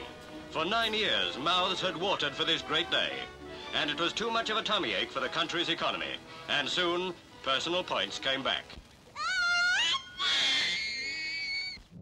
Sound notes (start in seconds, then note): 9.1 child screams